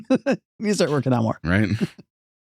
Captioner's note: laughs